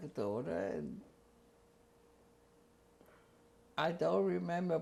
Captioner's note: pauses for 3 seconds